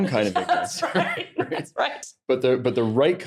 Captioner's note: laughs